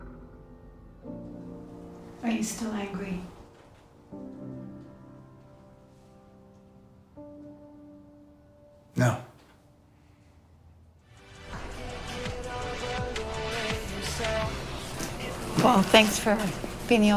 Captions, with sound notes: Are you still angry? No. [jazzy piano music] [muted chatter] Well thanks for being the only